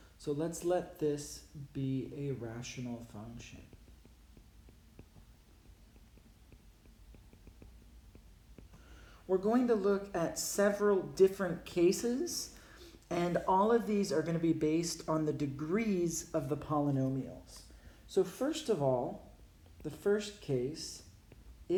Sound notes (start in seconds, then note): 3.6 writing